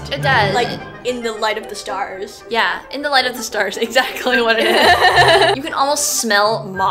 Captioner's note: laughs